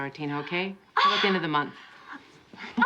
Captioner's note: gasps